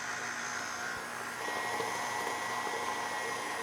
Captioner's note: mixer sounds